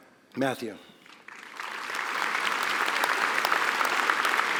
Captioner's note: applause